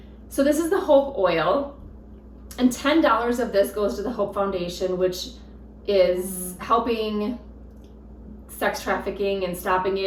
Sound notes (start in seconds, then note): none